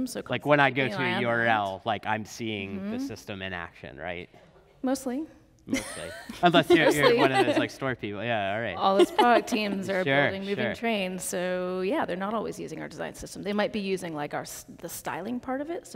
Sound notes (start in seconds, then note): 5.7 laughs; 8.8 laughs